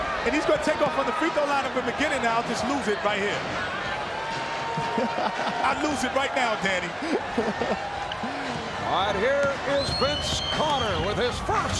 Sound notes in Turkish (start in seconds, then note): 7.1 kahkaha